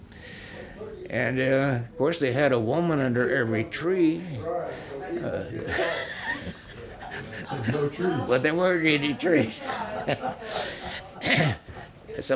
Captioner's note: laughs